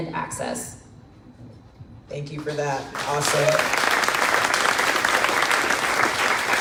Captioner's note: crowd claps